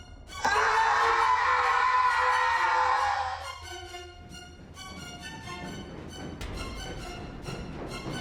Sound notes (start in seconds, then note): 0.4 screaming; 6.4 loud footsteps on stairs